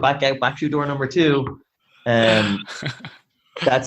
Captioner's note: laughing